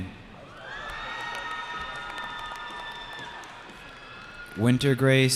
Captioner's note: cheering